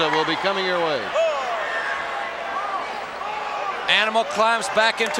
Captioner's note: crowd shout